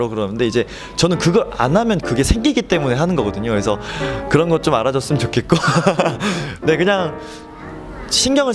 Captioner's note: laughs